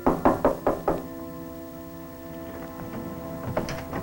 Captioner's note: knocking